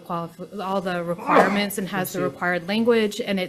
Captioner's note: sneezes